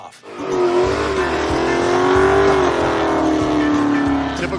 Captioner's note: engine revs